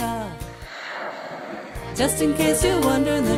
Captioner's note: whale spouts